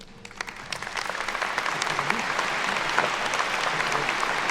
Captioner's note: attendees clapping